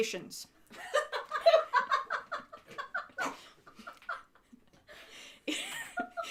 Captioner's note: crew laughs